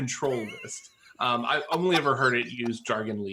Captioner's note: laughs